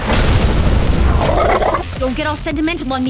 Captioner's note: 2Bells growling